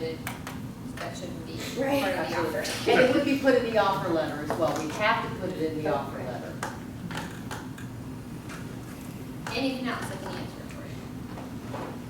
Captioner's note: laughs